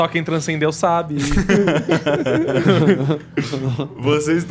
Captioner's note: laughs